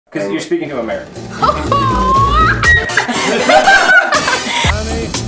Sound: laughs

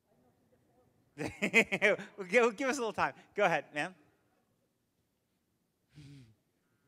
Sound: laughs

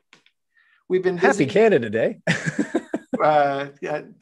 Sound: chuckles

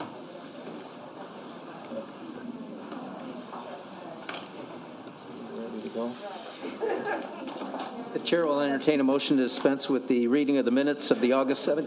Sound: laughter

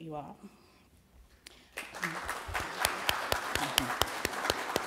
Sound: applause

